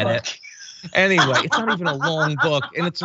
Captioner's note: laugh